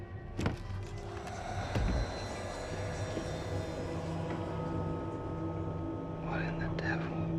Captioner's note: eerie music; voices whispering